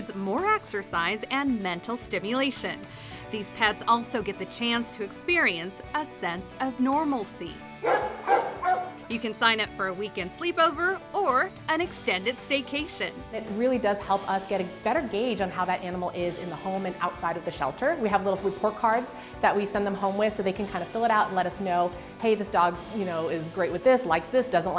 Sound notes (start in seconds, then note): 7.8 dog barking